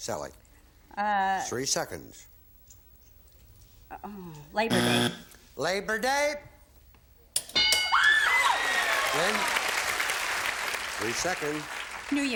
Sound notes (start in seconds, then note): 4.6 buzzer; 7.5 bell; 8.0 applause